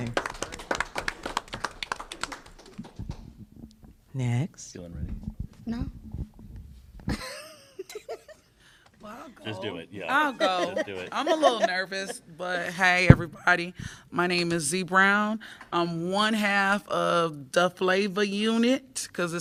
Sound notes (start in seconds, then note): 0.0 applause; 7.0 laughter; 10.2 laughter